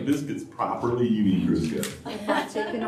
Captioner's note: laughter